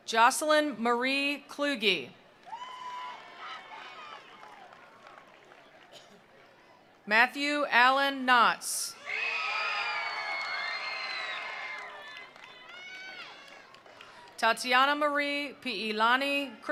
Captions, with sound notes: Jocelyn Marie Kluge. (attendees applauding) (attendees cheering) Matthew Allen Knotz. (attendees applauding) (attendees cheering) Tatiana Marie Pielani Kristen.